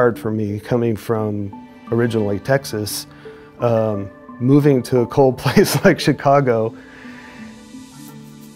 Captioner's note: chuckles